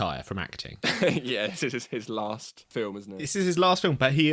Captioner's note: laughs